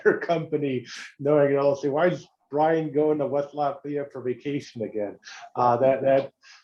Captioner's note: laugh